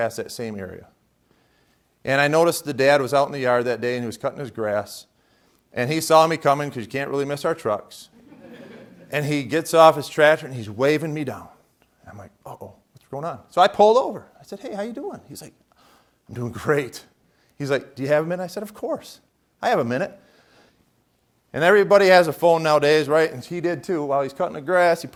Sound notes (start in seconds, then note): 8.1 laughter